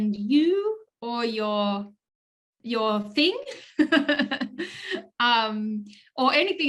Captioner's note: chuckles